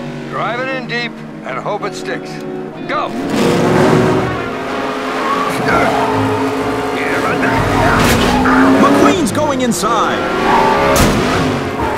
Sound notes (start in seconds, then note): 5.6 Chick grunts